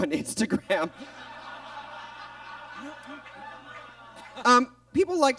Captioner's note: audience laughs